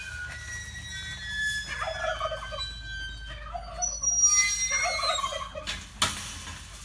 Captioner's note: turkeys gobble